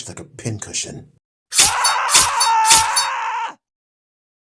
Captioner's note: screams in agony